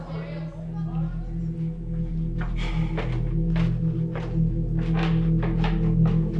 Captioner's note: indistinct chatter